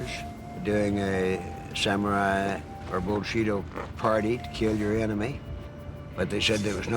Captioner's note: japanese